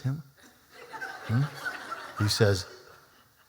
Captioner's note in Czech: Smích